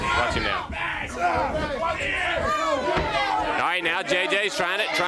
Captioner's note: crowd chatter